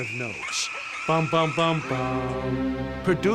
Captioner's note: hums ominous tune